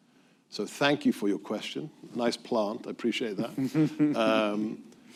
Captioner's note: laughter